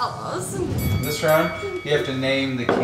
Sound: bell dings

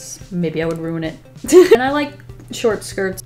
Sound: laughs

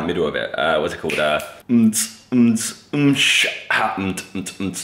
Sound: humming

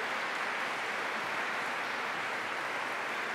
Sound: applause

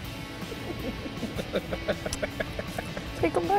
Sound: laughter

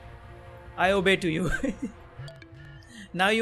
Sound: laughing

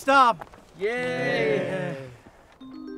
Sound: unenthusiastically

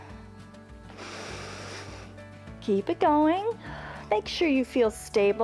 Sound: inhales

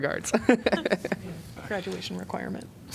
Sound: laughter

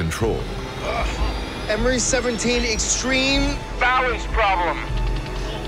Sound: grunts

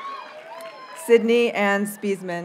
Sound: audience cheers and applauds

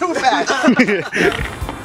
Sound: laughs

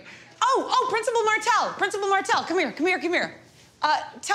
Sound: none

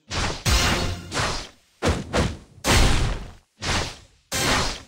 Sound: combo sound effects

